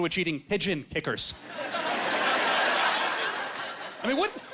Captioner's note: laughing